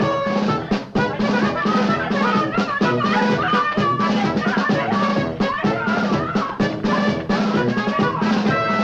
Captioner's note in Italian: grida confuse